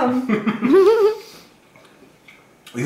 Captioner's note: everyone laughs